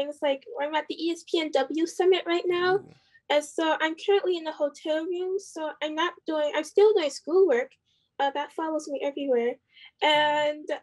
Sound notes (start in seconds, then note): none